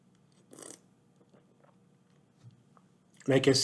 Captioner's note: slurps wine